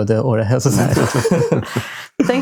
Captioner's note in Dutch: lachen